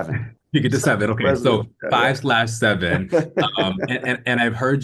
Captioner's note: Jonathan laughing